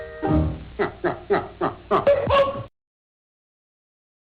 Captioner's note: man laughing